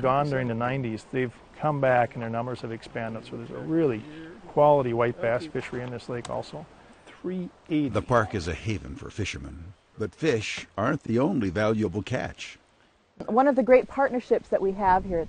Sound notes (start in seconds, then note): 7.6 voiceover